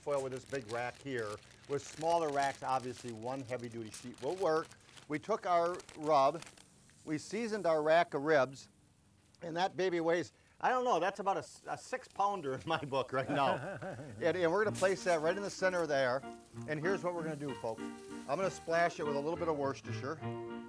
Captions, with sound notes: with this big rack here. With smaller racks, obviously, one heavy duty sheet will work. We took our rub, we seasoned our rack of ribs and that baby weighs, I don't know, that's about a six-pounder in my book right now. (chuckling) And we're gonna place that right in the center there. And here's what we're gonna do, folks. I'm gonna splash it with a little bit of Worcestershire.